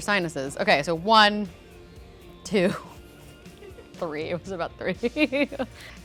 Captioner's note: chuckles